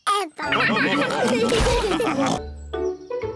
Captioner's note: all laugh